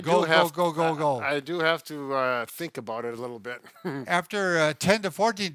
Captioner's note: chuckles